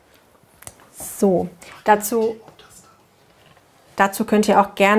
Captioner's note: whispers